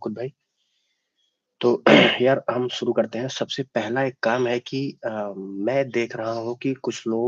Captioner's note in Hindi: गला साफ़ करने की आवाज़